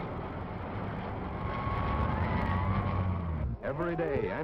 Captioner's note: sirens wailing